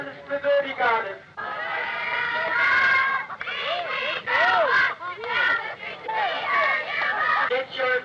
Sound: crowds chanting; man speaking through a megaphone

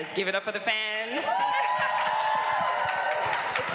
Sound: cheering

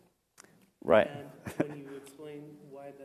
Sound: laugh

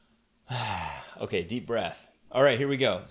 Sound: sighs

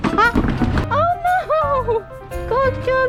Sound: haha

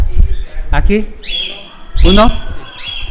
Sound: Spanish

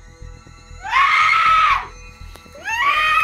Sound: screams

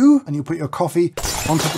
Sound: coffee shattering

